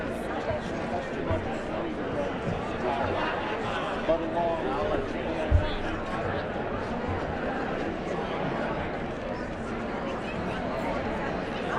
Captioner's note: indistinct chatter